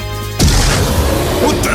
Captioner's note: mimi roars